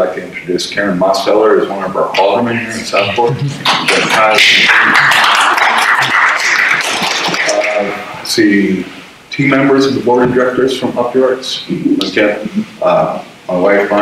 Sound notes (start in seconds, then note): 3.2 audience applause